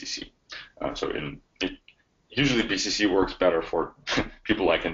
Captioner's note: chuckles